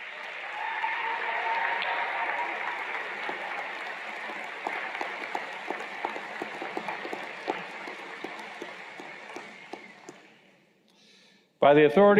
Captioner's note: cheers and Applause